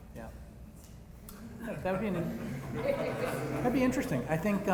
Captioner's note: laughter